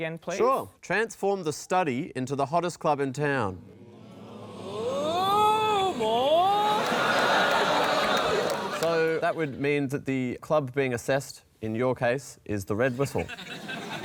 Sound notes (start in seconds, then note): 3.7 audience murmurs; 6.6 laughter; 13.0 laughter